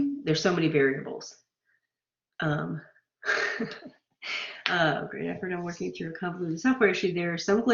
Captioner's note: laughter